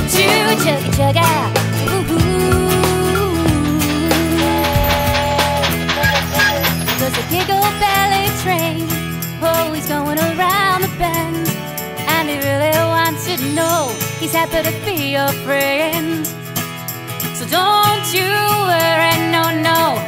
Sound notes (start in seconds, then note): 4.3 train whistle blowing